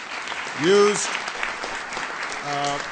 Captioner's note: applause